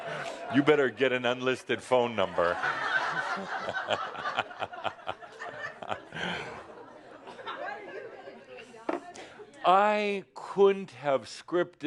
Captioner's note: more laughter